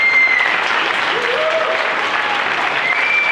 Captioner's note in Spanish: Aplausos